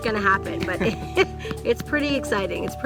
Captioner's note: laughing